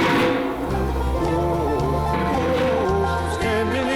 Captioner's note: banging